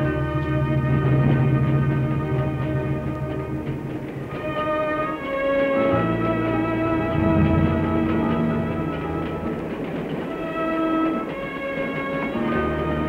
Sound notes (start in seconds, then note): 9.2 train clattering